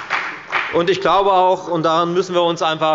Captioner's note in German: Beifall bei der FDP